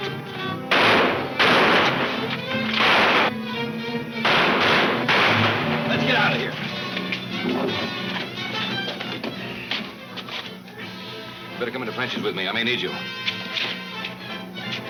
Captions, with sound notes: (gun firing aggressively) (guns firing aggressively) - Let's get outta here! - You better come in to Frenchie's with me, I may need you.